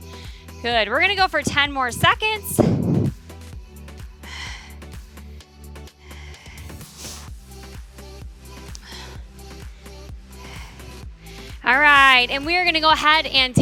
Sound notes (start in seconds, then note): 3.4 upbeat music continues; 3.6 breathing in and out